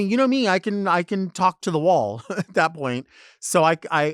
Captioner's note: chuckles